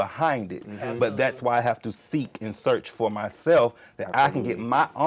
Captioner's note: others murmur in agreement